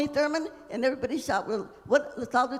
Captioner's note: speaking Spanish